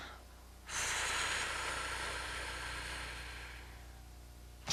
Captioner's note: breathing